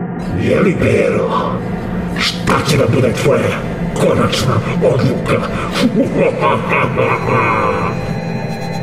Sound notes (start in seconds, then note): 4.8 SCP laughs evilly